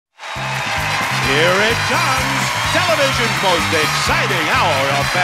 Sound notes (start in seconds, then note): 0.1 audience cheers; 0.2 theme plays